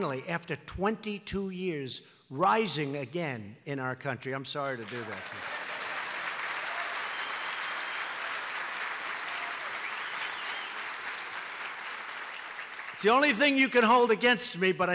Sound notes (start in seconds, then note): 6.3 applause